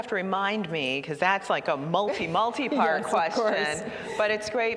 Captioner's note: laughter